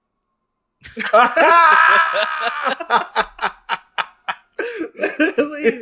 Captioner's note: laughs